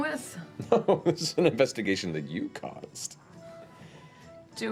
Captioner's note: laughs